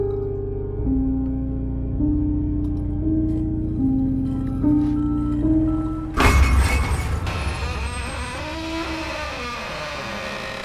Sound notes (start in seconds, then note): 0.0 unsettling music continues; 6.2 glass crashing; 6.6 metal squeaking